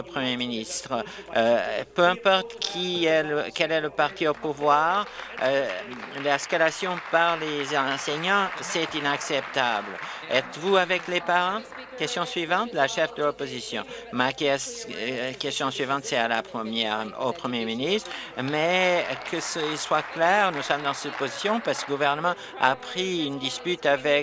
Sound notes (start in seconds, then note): 11.9 applause; 23.1 applause